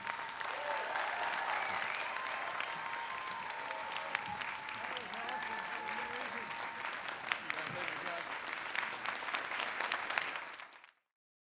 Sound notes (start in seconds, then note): 0.1 audience applauding and cheering; 6.3 people chattering